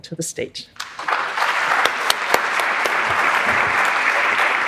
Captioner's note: everyone applauding